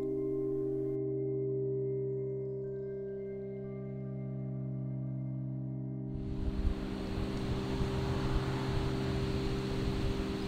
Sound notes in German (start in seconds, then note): 1.4 Nachdenkliche Musik; 6.2 Windbrausen